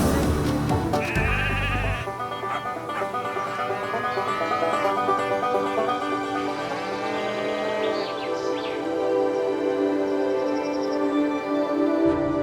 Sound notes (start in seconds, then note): 0.9 sheep bleating; 2.4 dog barking; 3.9 cattle mooing; 3.9 lively music; 9.7 gentle music